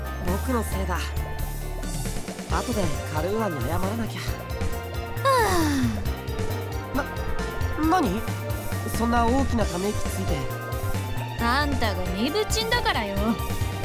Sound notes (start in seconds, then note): 5.2 exasperated sigh